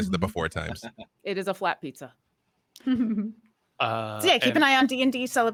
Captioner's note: chuckles